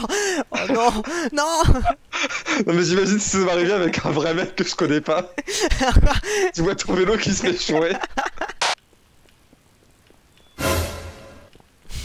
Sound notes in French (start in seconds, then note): 10.4 son de surprise